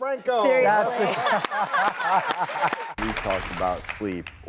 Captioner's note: applause